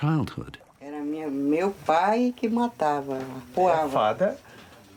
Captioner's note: speaking in foreign language